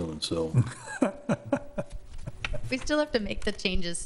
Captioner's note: laughing